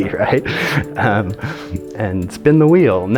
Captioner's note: chuckling